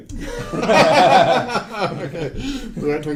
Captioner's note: laughing